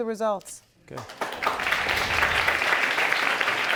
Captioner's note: audience applauding